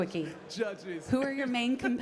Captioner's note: chuckling